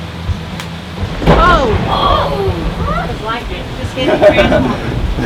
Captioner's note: thunder clapping; laughing